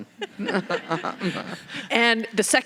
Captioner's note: laughing